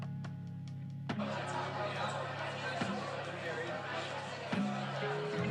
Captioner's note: audience chatting